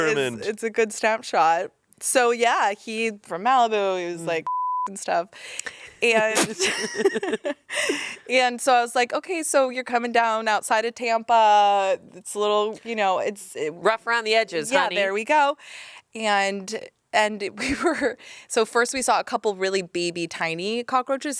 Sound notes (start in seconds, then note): 4.4 beep; 6.1 everyone laughs